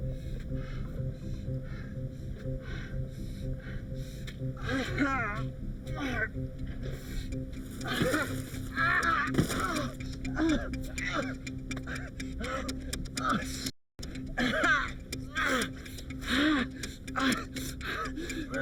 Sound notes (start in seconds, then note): 0.3 Jim panting; 4.5 Jim groaning; 9.1 body thuds; 9.6 Jim groaning; 14.3 groaning